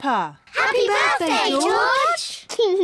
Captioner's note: laughs